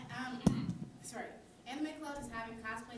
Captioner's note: clearing throat